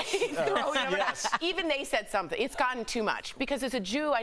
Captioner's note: laughter